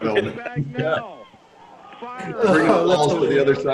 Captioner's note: all laugh